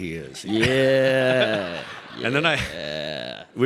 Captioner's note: audience laughing